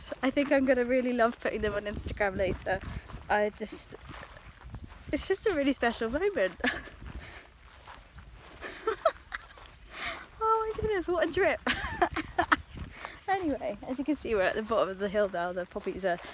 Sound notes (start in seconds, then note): 8.5 chuckles